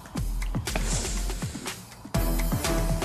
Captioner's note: sniffles